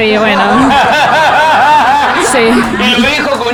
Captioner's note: laughs